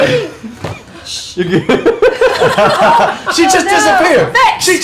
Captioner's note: laughter